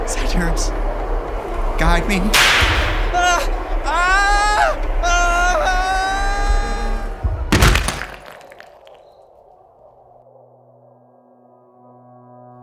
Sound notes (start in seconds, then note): 2.5 crack of a whip. man yelps in pain, falling; 7.4 man slammed hard onto bricks from high drop